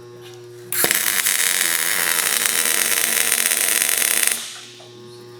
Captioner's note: welding machine sizzling